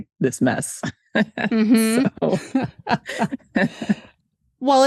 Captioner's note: laughs